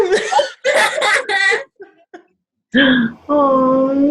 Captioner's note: both laughing